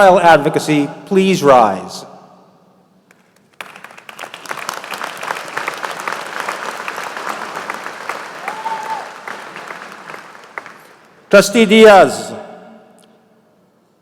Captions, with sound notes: [APPLAUSE] GOOD AFTERNOON